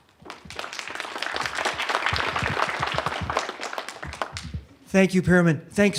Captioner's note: applause